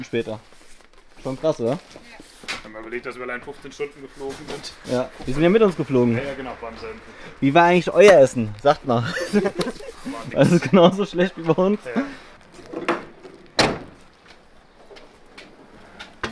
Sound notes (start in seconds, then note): 11.5 laughs